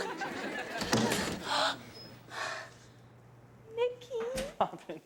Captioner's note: audience laughing; gasps